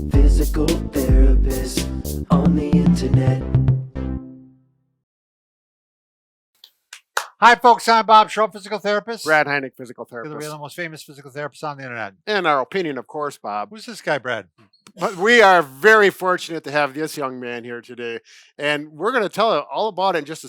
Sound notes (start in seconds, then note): 6.9 clapping hands